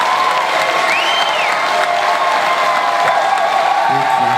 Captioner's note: crowd whistles and whoops